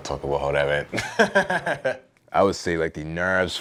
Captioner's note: laughs